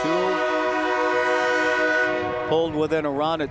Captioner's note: train whistle blowing